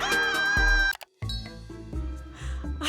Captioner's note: laughs; mouse clicks